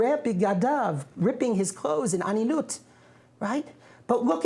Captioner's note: non-english speech; non-english speech